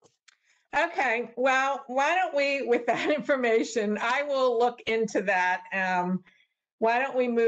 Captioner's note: laughter